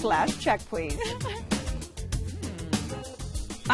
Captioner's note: chuckles